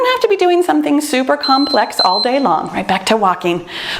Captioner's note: timer beeps